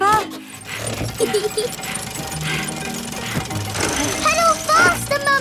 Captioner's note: mummy pig panting; peppa laughing